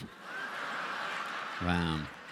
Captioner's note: laughter